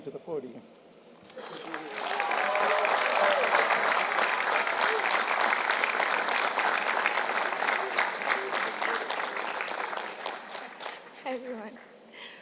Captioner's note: applause